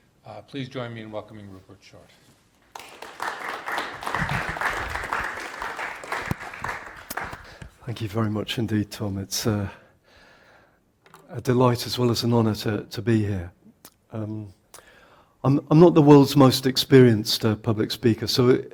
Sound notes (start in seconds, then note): 2.7 audience applauds